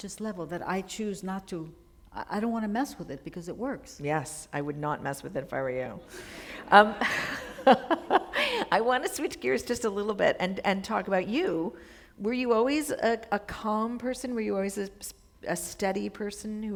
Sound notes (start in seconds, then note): 7.8 chuckle